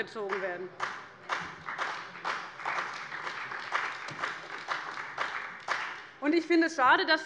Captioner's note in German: Beifall bei dem BÜNDNIS 90/DIE GRÜNEN und der CDU